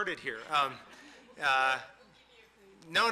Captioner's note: audience laughing